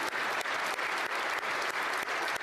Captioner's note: applause